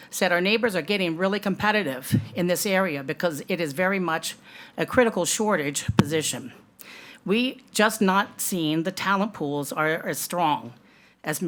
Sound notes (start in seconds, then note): none